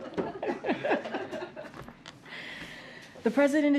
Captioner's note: laughter